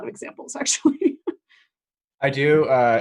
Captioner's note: laughs